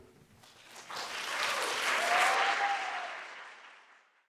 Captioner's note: audience applauds; audience cheering